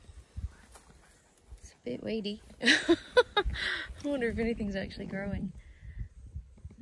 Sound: laughs

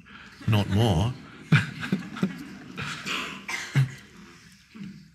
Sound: everyone laughing

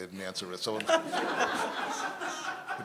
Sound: laughter

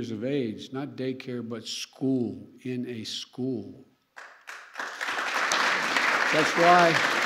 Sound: applause

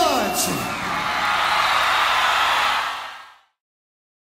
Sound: audience cheering

